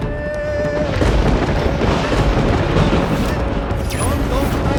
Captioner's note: thundering